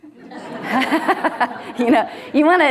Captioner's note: audience laughing